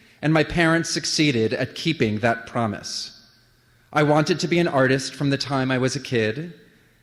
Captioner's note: none